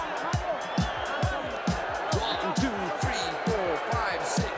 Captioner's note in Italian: Applauso